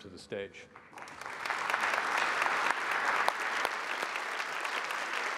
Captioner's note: applause